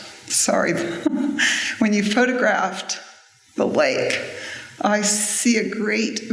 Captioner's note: tearfully